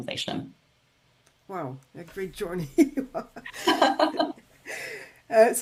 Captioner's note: laughs